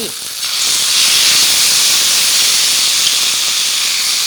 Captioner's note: oil crackling